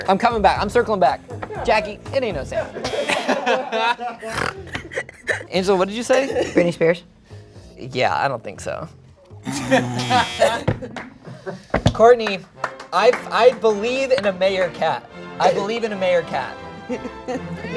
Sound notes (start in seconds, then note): 2.5 group laughing; 2.6 chuckling; 2.8 buzzer beeping; 4.2 snorting; 6.1 chuckling; 9.4 groaning; 9.4 laughing; 12.0 triumphant music; 12.1 softly clapping; 16.8 triumphant music